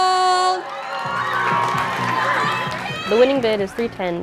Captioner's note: cheering